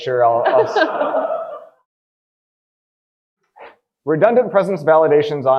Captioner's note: audience laughing